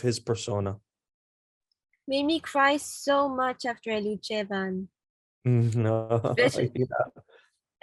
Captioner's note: laughs